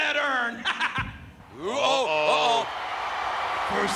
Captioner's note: laugh